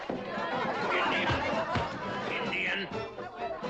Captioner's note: thumping